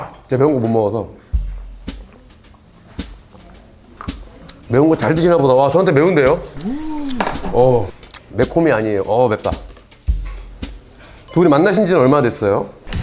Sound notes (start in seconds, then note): 6.6 haha